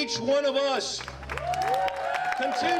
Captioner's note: applause